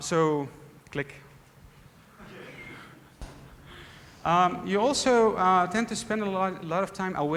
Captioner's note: laughter